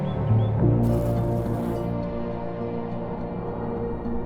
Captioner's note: bee buzzes